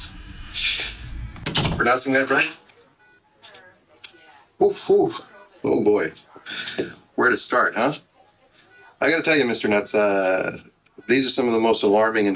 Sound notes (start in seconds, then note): 0.0 door close; 3.0 noisy hospital